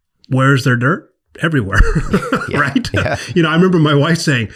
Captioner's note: laughs